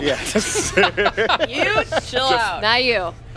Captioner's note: laughing